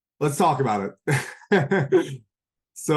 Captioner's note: laughs